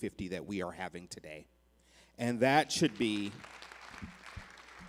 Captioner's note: applause